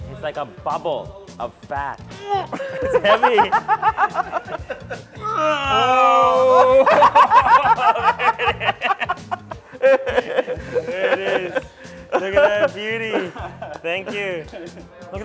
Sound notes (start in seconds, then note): 5.2 grunting; 7.3 laughing